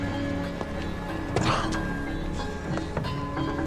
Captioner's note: coughs